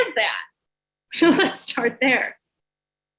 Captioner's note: chuckles